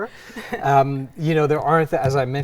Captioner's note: chuckles